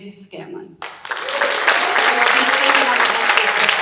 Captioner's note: audience cheering and applauding; audience clapping drowns out speaker